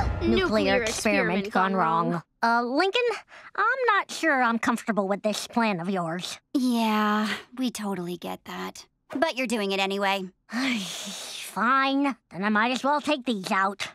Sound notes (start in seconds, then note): 10.0 sighing